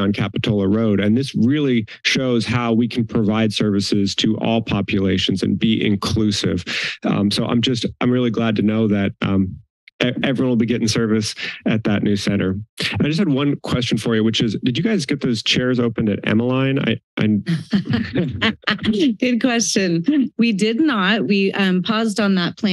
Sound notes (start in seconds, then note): 17.1 laughs